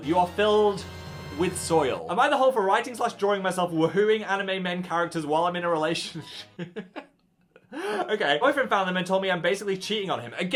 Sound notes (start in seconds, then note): 6.0 host laughs